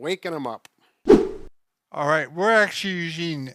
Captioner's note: whip sound